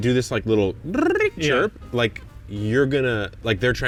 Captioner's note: imitates ascending chirp